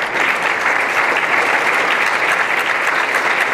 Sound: applause

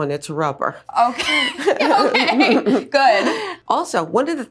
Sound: laughs

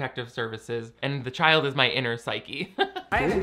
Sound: laughing

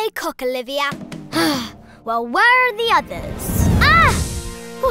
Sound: sighs

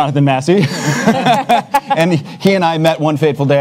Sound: panelists laugh

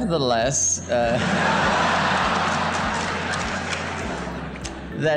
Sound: audience laughs

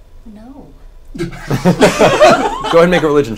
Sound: all laugh

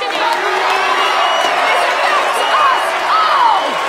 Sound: crowd cheers

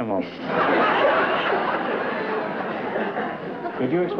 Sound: laughter

